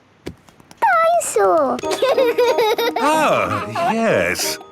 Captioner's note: giggles